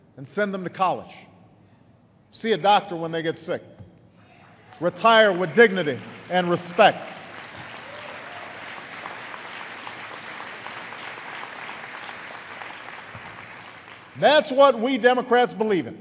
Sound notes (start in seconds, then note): 9.4 applause